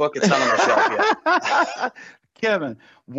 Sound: continues laughing

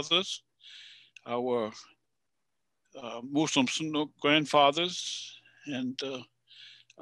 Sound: speaking in Passamaquoddy language

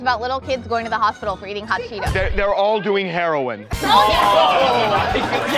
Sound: laughter

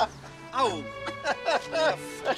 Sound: laughing

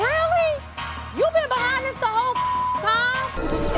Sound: beep

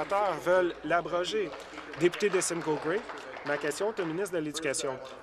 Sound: applause

